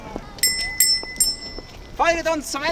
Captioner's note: bell